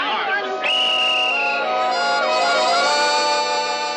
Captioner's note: whistle blowing